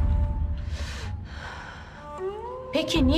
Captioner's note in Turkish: Nefes sesi